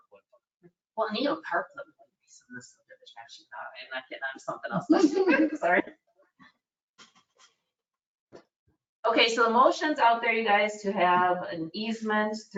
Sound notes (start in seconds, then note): 1.3 speaking faintly; 4.7 committee members laughing